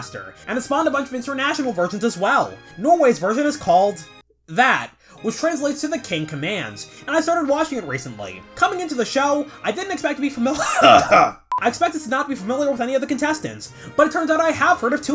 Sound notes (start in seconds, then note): 10.6 cough